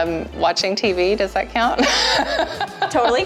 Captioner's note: laughs